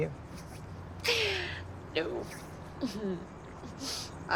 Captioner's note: chuckles